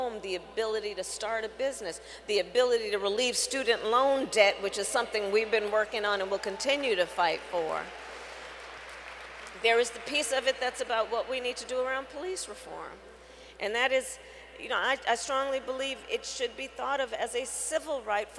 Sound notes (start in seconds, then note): 7.7 applause